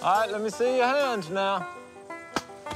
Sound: paintball shot

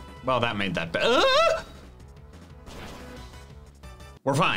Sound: screams

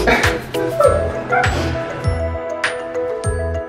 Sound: laughing

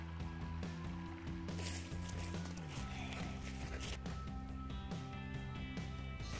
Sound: feet crunching leaves and dirt

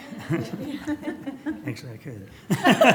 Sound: laughter

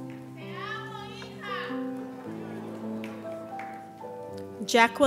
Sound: audience member speaking foreign language

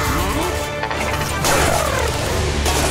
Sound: clanking; thudding

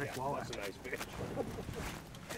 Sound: fish splashing

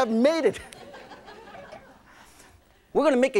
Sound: laughing

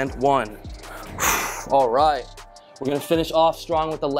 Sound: exhales loudly

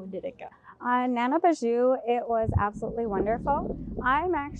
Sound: speaks in foreign language

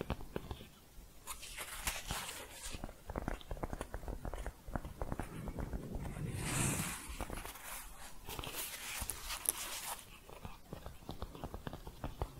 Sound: shuffling and tapping

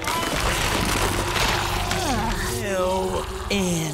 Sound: gargling

